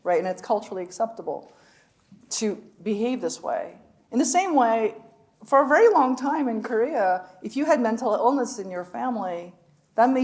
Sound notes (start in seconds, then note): none